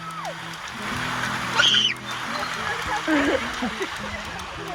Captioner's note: screaming